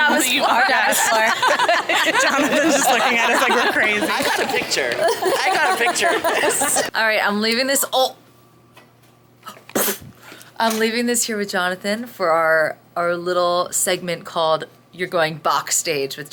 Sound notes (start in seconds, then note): 2.0 all laughing; 9.6 imitates bonking